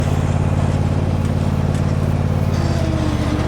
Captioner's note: mower